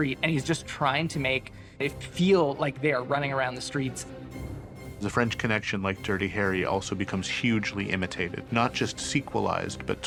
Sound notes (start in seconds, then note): none